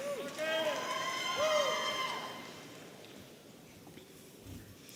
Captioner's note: audience cheering